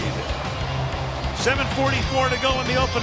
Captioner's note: cheering